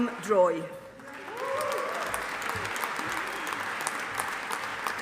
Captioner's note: audience applauding